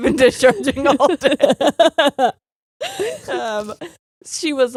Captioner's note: both laughing